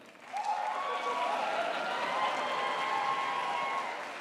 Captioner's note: crowd applauds